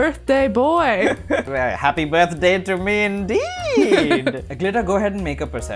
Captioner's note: laughter